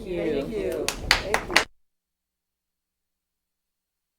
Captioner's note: applause